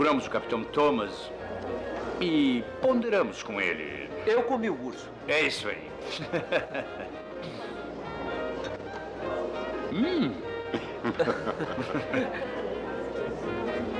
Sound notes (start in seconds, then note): 6.0 laughs; 9.8 chuckles